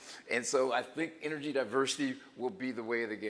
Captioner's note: none